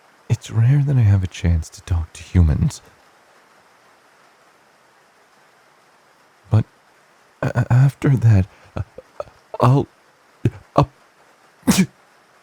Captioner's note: sneeze